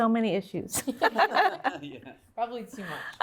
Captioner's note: laughter